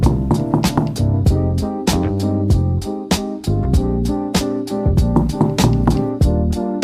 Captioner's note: kNOCK KNOCK KNOCK